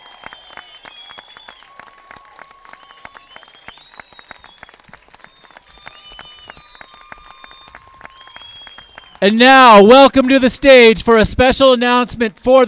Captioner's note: cheers and applause